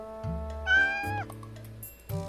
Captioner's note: meow